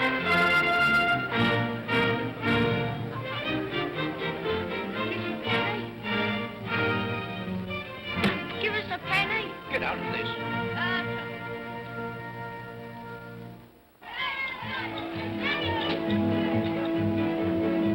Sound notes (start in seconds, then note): 0.0 upbeat regal music; 14.0 children's voices; 14.5 whimsical music